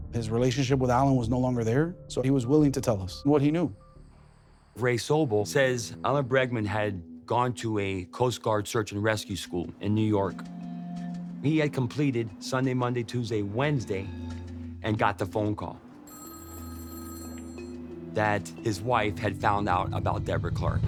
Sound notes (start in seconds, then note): 15.8 phone ringing